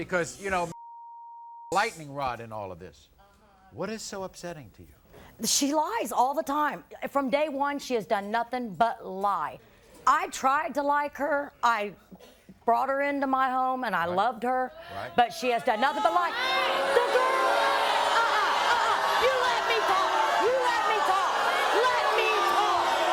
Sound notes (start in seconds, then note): 16.3 audience booing